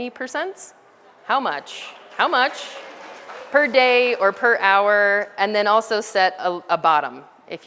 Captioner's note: background audience applause sounds